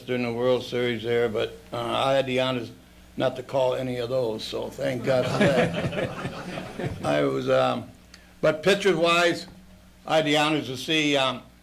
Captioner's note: laughter